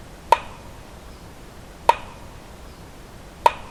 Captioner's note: knocking